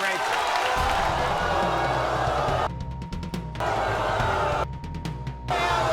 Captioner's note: audience booing; thunderous music